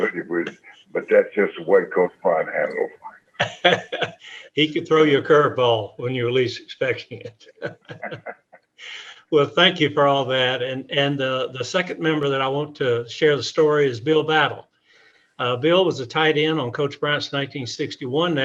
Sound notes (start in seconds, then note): 3.4 laughs; 7.5 scattered laughter